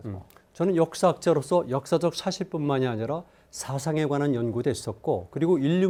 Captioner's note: speaking in Korean